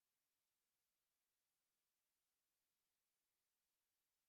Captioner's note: none